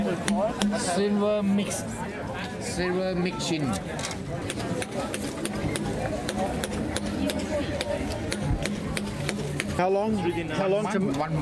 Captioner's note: hammer tapping